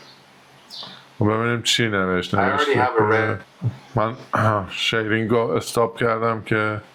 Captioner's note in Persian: گلویش را صاف می‌کند